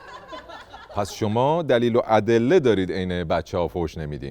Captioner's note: laughter